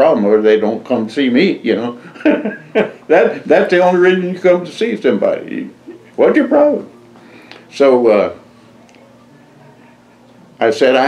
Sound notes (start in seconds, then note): 2.0 laughs